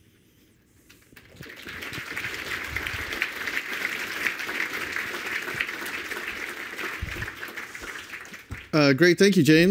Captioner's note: applause